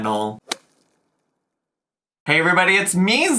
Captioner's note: logo thuds